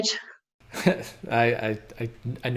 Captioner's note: chuckles